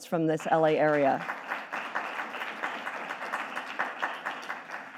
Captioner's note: audience applauding